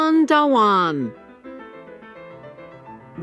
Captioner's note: none